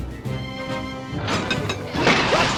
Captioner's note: gears clank